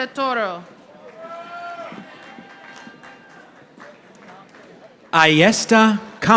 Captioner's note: audience applauding